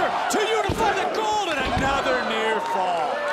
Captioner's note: crowd cheers